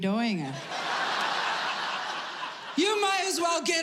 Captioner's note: audience laughing